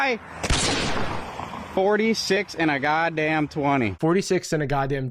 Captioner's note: gunshot